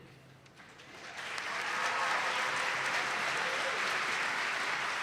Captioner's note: attendees clapping